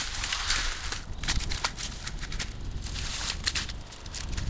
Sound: trees crunching

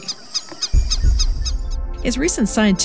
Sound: birds squeaking

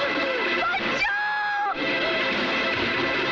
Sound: screams

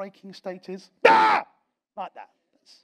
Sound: shouts

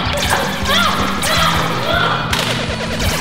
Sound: shouting

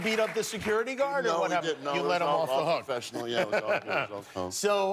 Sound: cheers and applause

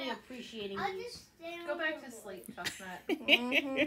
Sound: laughter

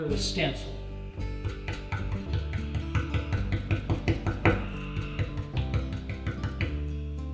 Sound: gentle guitar music; brush tapping

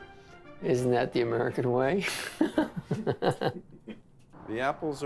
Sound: laughs

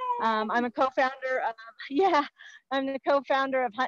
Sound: laughing

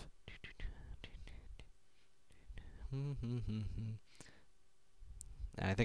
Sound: humming

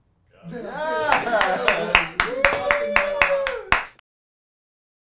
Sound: cheers

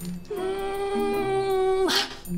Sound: straining sound

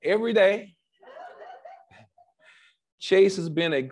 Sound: laughs

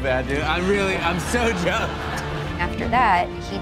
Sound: laughing

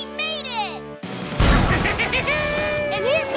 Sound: laughing

